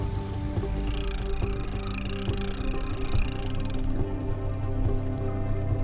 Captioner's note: fishing reel cranking